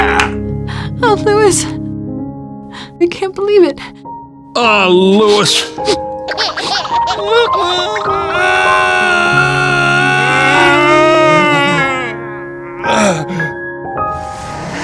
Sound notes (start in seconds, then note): 0.0 performs a beautiful piano solo; 6.2 performs a beautiful piano solo; 6.4 crying; 13.4 performs a beautiful piano solo